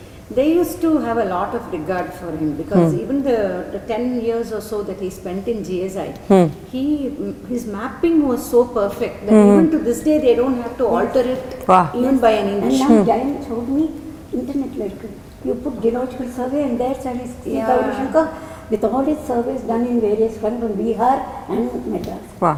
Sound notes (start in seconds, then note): 13.8 in Tamil